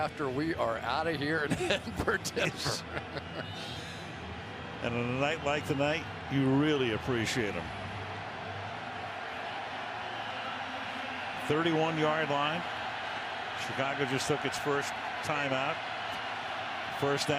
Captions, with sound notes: long after we are out of here. [laughter] And a night like tonight, you really appreciate them. 31-yard line. Chicago just took its first timeout.